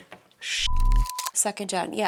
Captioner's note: beep